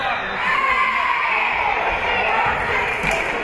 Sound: whistle being blown; spectators cheering; team chanting

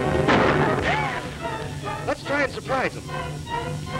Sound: gun shots

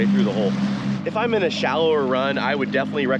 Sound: boat engine running

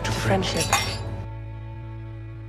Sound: glasses clinking

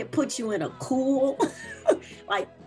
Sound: laughs

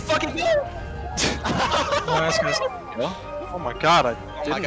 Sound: all laughing

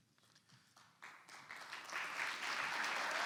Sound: clapping

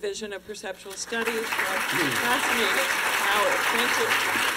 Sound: applause

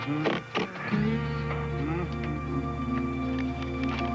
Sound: humming

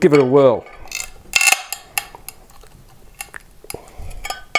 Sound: crackling

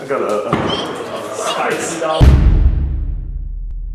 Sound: laughing

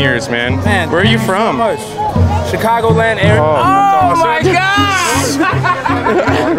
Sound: laughs

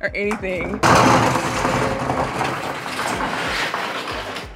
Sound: door rattling

